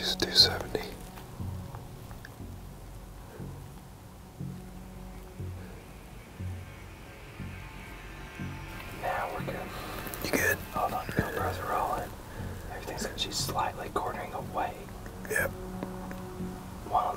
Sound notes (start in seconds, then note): 2.0 whispering